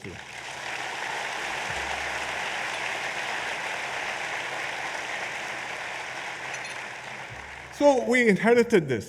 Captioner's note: applause